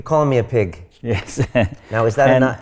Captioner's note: laughs